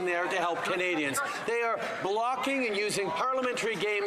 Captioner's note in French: voix de l'interprète